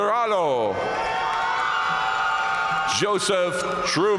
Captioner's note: audience cheering and applauding